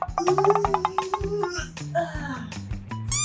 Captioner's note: groaning like an 80 year old woman